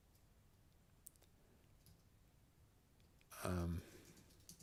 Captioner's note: silence